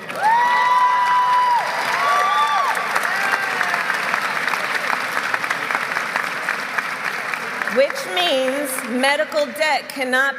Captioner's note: applause